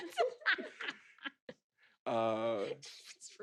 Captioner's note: laugh